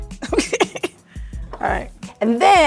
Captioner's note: chuckles